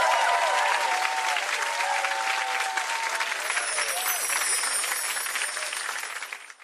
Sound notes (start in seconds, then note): 0.0 audience cheers and applauds; 3.4 tinkling sound; 3.5 audience cheers and applauds